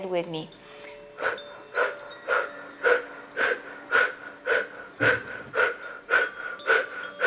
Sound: gentle music; breathing heavily

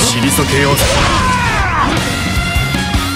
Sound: fatal scream

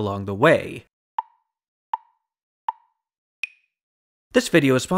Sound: tick, tick, tick, tick, tock

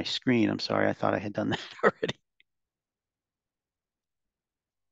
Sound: chuckles

